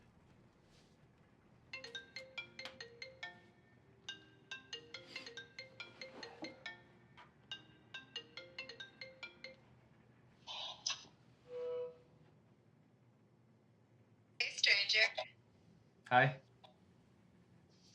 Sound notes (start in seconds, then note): 1.7 phone rings